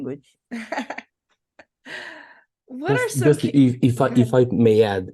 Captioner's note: laughing